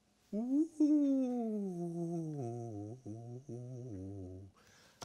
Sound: making ghostly noises

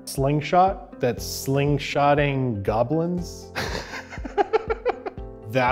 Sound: laughs

